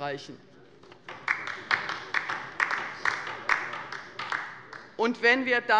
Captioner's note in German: Beifall bei der LINKEN